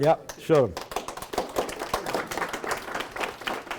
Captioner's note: applause